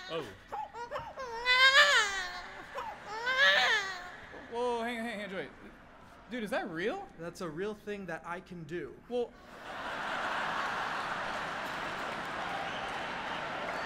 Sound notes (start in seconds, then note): 0.0 continues to imitate baby